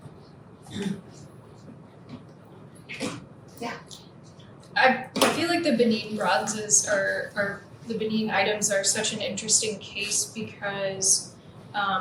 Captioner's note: audience member speaking